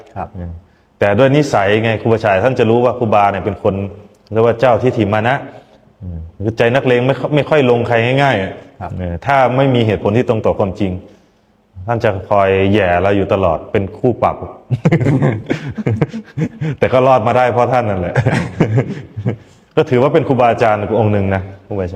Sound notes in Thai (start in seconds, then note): 14.7 เสียงหัวเราะ